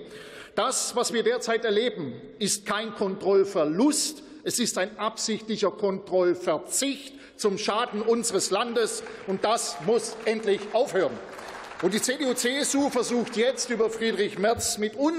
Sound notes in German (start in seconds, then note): 10.6 Beifall